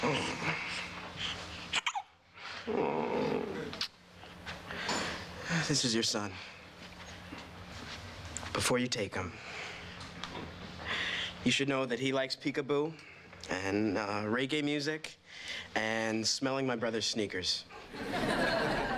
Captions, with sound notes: [HICCUP] OH... THIS IS YOUR SON. BEFORE YOU TAKE HIM... YOU SHOULD KNOW THAT HE LIKES PEEKABOO AND, UH...REGGAE MUSIC AND SMELLING THMY BRO SER'SERNEAKS.